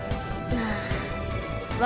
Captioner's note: sigh